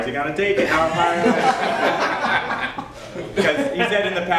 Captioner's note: laughter